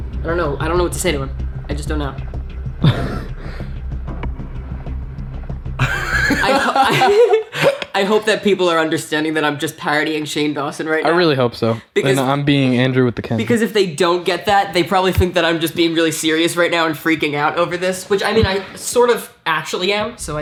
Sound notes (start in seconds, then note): 2.6 chuckles; 2.6 laughs